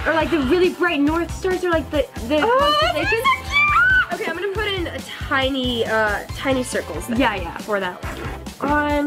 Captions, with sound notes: or like the really bright North star or like the constellations. - Oh, it's gonna be so cute. (squeals) Okay, I'm gonna put in tiny circles for that one. - Yeah, yeah.